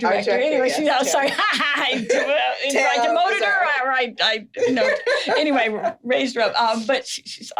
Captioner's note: laughing